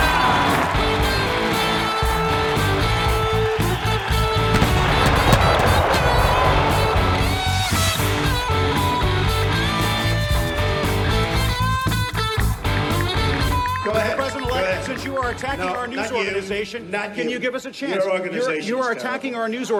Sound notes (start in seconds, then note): 0.3 cheering; 4.5 cannon booming; 5.4 rock music